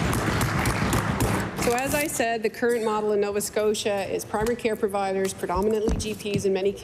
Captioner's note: applause